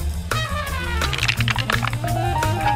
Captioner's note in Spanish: c r o n c h